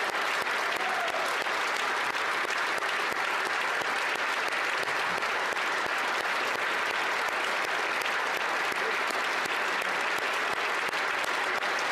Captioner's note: applause